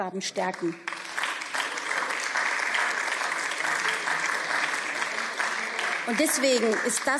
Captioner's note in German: Beifall